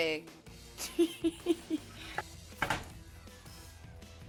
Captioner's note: laughing